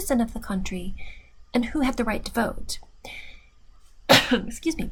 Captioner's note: cough